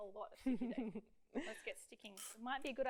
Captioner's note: laughs